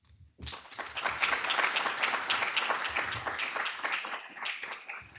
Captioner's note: applause